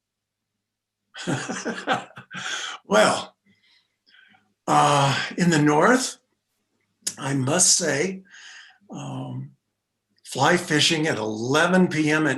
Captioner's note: laughs